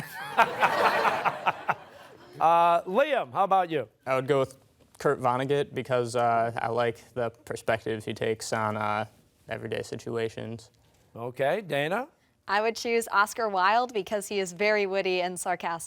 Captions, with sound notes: a long, boring narrative. (laughter) Liam, how about you? - I would go with Kurt Vonnegut, because I like the perspective he takes on everyday situations. - Okay. Dana? - I would choose Oscar Wilde, because he is very witty